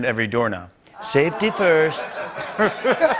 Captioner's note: As Trump; laughter